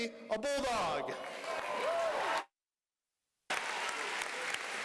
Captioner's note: applause